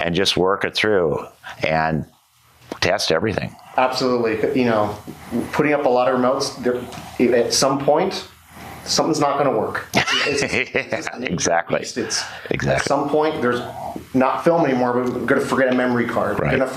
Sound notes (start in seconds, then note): 9.9 laughs